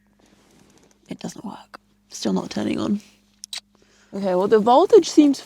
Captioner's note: none